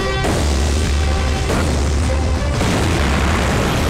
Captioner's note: Explosion